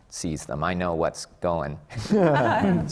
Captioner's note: laughter from the panel